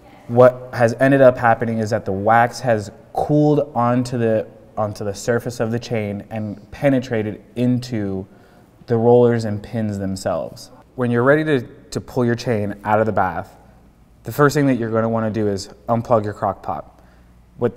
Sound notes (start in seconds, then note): none